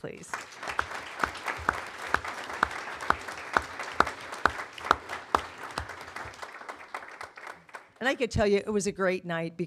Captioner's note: applause